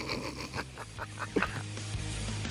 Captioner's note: sniggering; laughing; upbeat rock music